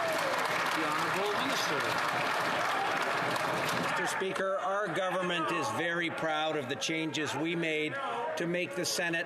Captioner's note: some Applause